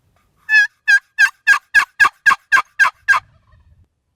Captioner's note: box call yelping